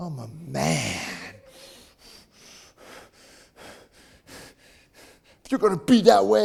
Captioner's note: breathing heavily